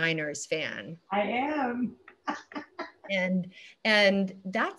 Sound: laughs

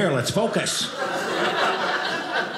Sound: audience laughing

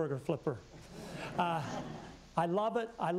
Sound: laughter

